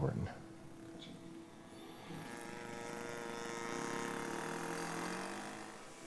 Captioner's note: louder buzzing and whirring